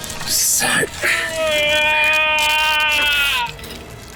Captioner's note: screams